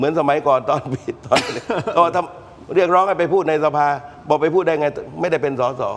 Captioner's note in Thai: เสียงหัวเราะ